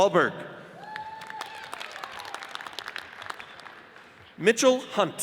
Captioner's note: audience cheers and applauds